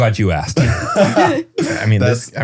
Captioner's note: laughs